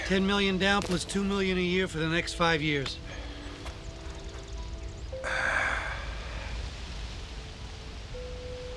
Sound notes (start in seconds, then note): 4.6 birds chirping